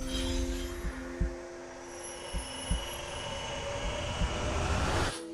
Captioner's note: chimes and sound of air flowing